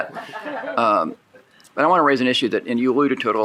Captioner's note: shared laughing